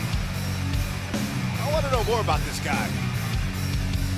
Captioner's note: crowd cheering